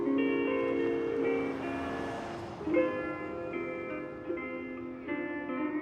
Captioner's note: cars whooshing; soft Hawaiian music